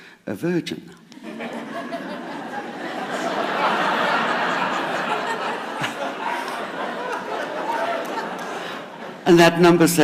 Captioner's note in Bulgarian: Смях